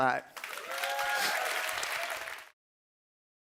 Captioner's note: applause